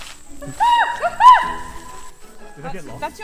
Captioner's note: bird Noises